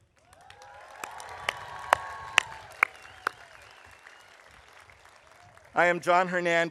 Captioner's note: audience applauding; audience cheering